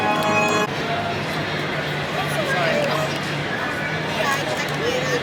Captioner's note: crowd chattering